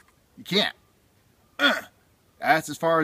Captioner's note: grunt